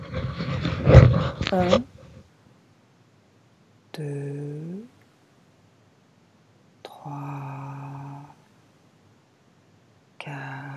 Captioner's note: finger snap